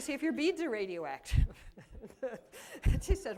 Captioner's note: laughter